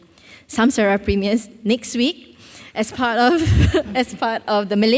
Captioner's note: laughs